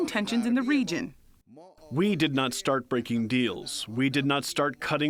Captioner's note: through translator